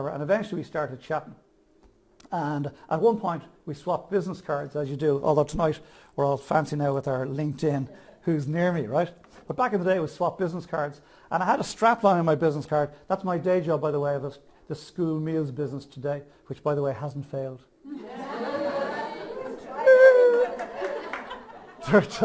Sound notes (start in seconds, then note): 17.9 audience laughs